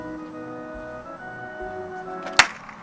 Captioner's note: very loud and real SLAP